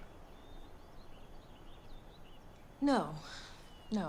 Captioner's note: none